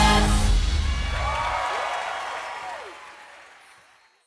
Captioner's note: crowd claps